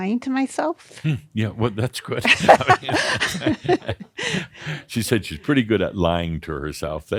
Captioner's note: they laugh